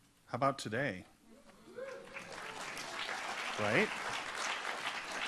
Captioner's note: audience applauds